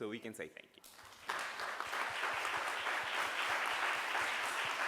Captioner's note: audience applauding